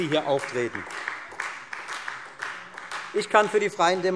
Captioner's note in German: Beifall Freie Demokraten